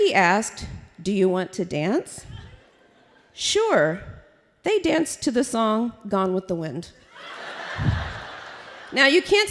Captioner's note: laughter